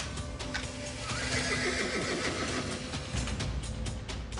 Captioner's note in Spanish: Relinchos